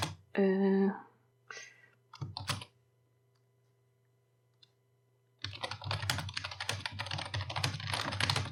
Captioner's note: typing